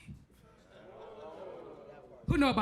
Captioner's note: crowd murmurs